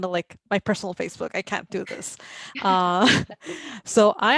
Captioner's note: laughs